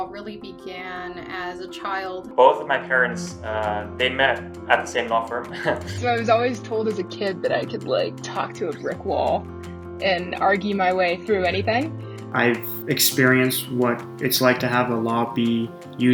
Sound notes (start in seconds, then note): 5.4 chuckles